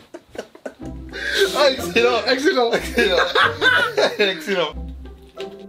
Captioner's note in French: Fou rires